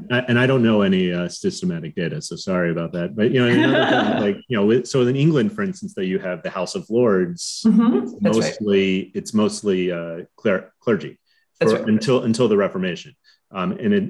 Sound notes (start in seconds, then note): 2.6 laughs